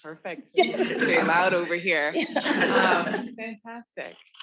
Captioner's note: all laughing